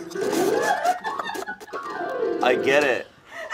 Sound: crew laughing

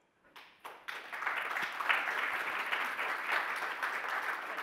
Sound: audience applauding

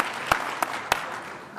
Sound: applause

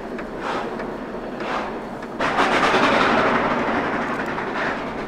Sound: one locomotive repeated slipping

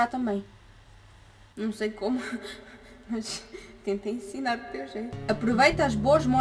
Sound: timid laughter

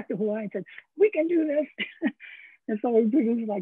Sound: chuckles

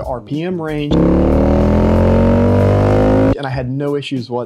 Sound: motorcycle engine roaring

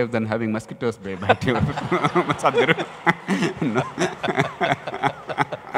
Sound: laughter

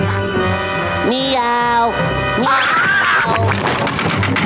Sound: meowing, screaming

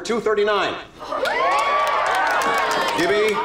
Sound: cheering

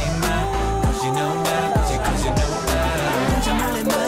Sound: pirate Ship ride ends

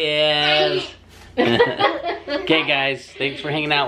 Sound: everyone laughs

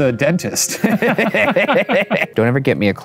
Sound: both laugh

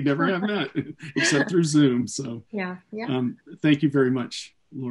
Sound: laughs

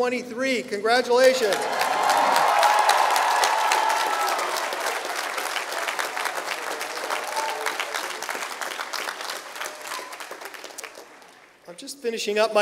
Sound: applause

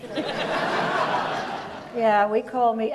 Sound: audience laughs

